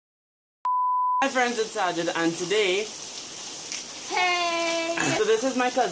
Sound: snaps

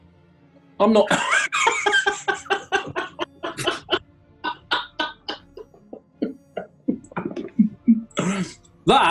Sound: laughter

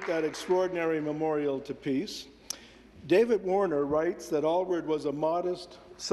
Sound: applause

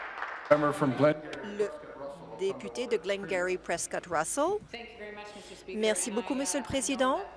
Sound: applause

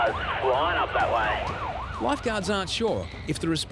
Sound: sirens wailing

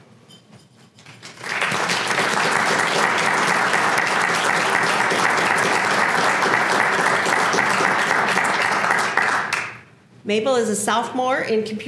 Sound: applause

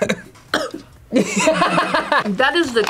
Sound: coughs; laughs

